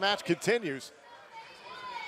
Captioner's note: none